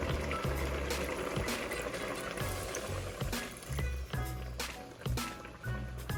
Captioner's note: bubbly boiling sounds